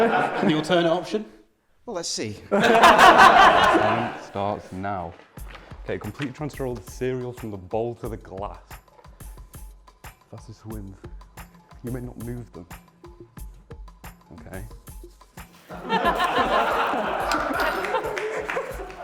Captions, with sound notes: And the alternate option? Well let's see. (laughter) "Your time starts now." Okay, "Completely transfer all the milk from the bowl to the glass," "Fastest wins." You may not move them. Okay. (laughter)